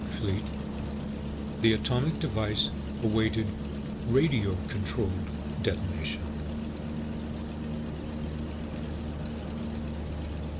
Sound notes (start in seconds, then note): 6.5 machines humming; 8.2 aircraft engines sounding